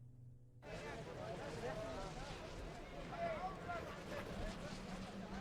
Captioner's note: background chatter